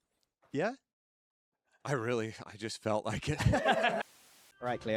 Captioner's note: laughing